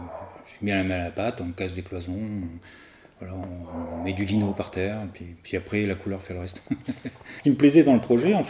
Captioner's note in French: rires